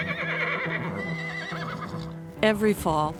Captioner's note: horses neighing